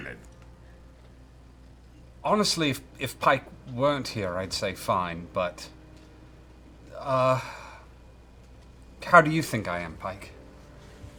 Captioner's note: sighs